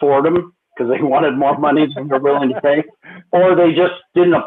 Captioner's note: laughter